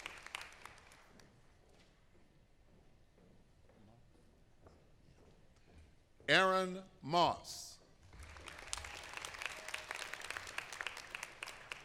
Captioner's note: applause